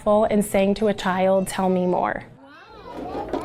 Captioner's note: none